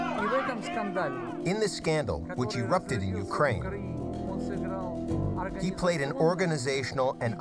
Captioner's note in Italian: parla una lingua straniera